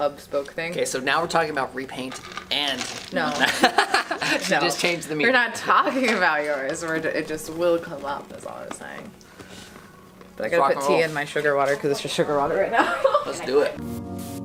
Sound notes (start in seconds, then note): 3.2 laughs; 14.2 slow tempo music